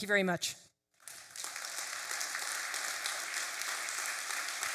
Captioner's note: applause